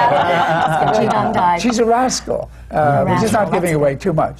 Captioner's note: laughter